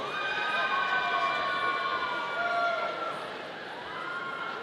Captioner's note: audience cheering